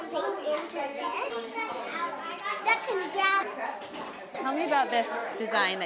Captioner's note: children talking